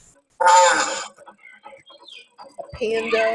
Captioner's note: hippo groaning